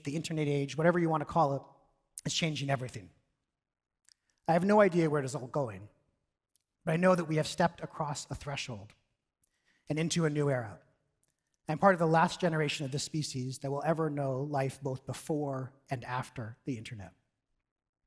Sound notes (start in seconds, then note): none